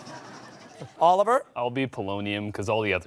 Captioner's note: laughter